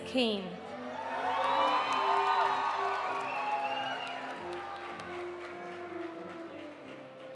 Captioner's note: audience applauding; audience cheering